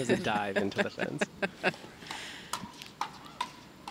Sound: laughing

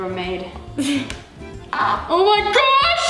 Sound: laughs

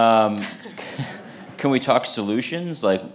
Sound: audience laughing

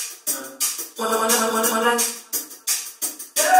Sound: cut-up vocalising continues

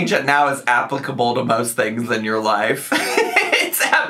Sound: laughs

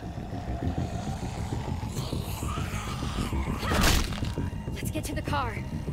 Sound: zombie growls

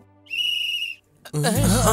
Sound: whistle blows

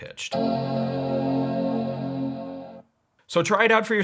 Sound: computer chimes

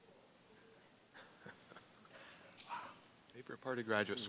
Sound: student speaking off mike

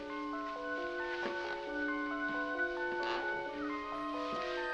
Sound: stairs creaking

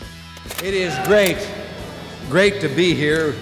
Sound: slide clicks

